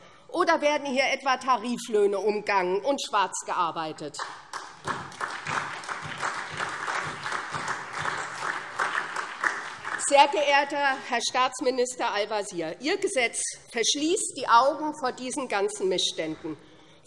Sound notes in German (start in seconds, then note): 4.2 Beifall SPD und die LINKE